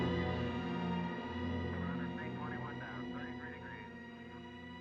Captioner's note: radio Chatter